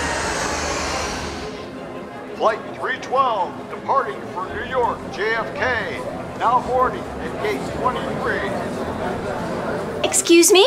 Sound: crowd

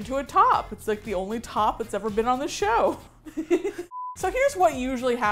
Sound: both laugh

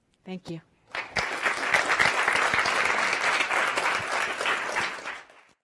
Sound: audience applauds

